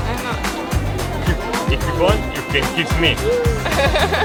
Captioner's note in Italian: Inglese